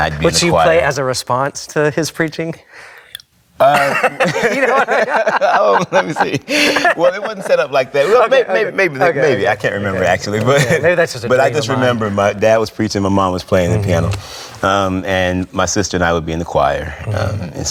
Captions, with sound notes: - Would she play as a response to his preaching? (both laughing) - Well, lemme see. Well, it wasn't set up like that. Maybe. I can't remember actually. But I just remember my dad was preaching, my mom was playing the piano, and my sister and I would be in the choir.